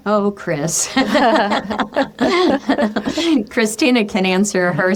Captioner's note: both laughing